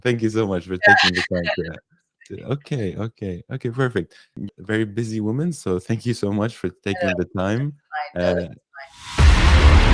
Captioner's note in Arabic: تضحك